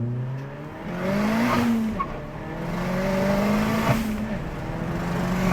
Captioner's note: engine revving